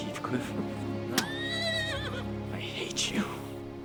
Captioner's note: horse whinnying